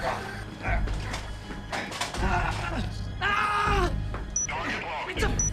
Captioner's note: Bill shouting